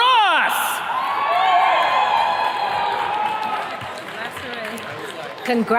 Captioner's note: attendees cheers and claps